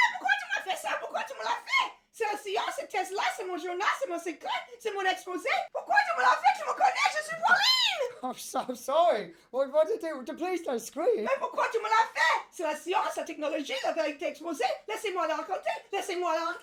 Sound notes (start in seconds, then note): 0.2 Cassie screaming in French; 12.1 Cassie screaming in French